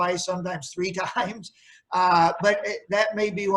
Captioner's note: chuckles